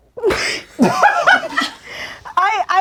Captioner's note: crowd laughing